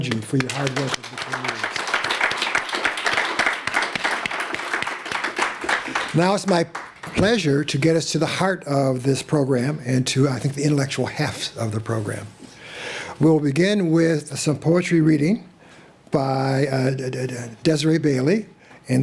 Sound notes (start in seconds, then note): 1.7 applause